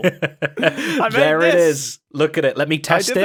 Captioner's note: laughs